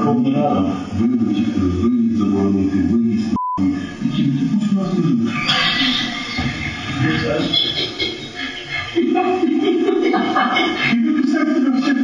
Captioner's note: whispering; laugting